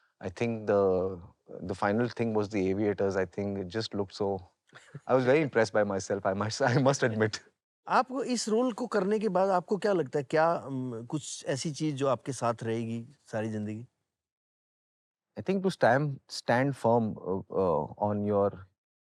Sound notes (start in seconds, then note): 4.8 laughs; 6.6 laughs